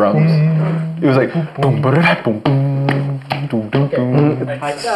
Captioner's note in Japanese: 鼻歌